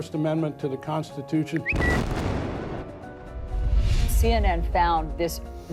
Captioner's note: explosion booming